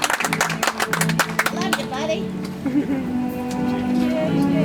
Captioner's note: audience applauds